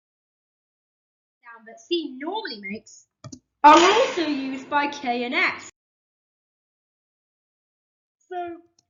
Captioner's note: boom